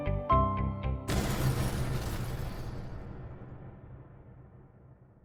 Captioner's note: fire whooshing